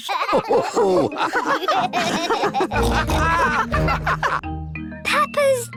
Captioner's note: all laugh